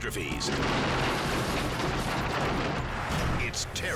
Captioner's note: plane slams